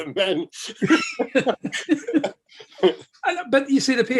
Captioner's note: laughing